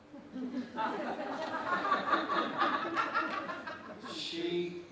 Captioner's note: laughter